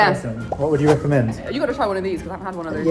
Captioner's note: bubble pops